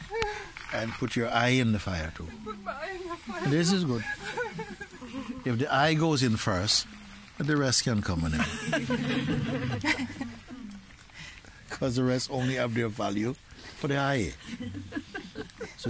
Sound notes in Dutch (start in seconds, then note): 8.3 gelach